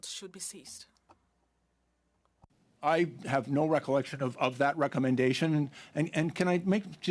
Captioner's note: speaking French